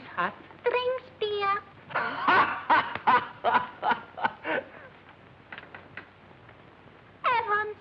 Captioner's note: laughs